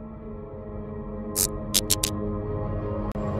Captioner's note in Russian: звуки мерцания лампочки